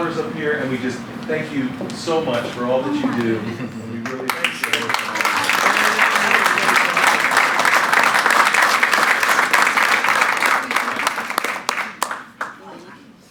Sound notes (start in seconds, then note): 6.2 applause